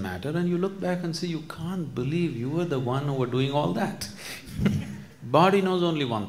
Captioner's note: laughs